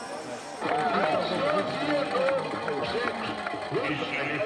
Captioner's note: all cheer; speaks german